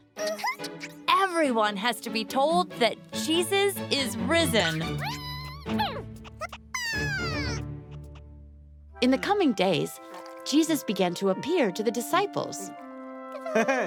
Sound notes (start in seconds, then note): 5.2 happy caterpillar noises